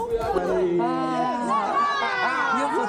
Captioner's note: shouting and laughter